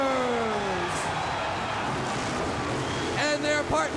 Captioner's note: crowd cheering